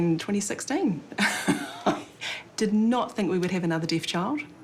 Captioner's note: chuckles